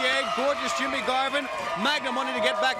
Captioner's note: crowd cheering